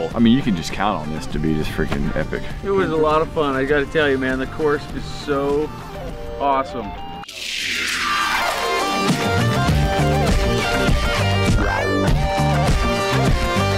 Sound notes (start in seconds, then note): 7.2 pancakes sizzling on grill; 10.0 upbeat electronic music